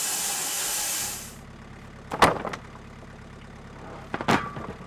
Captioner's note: engine rumbling